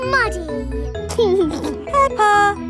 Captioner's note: giggling